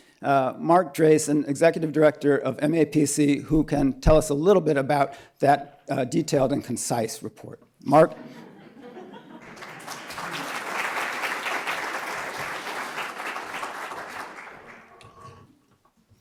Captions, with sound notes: Mark Drazen, Executive Director of MAPC, who can tell us a little bit about that detailed and concise report. Mark. [LAUGHTER] [APPLAUSE]